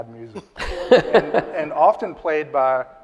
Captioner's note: audience laughs